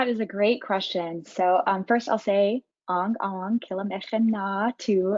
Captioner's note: speaking in foreign language